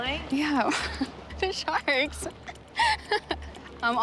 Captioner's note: laughs